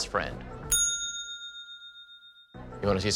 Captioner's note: bell dings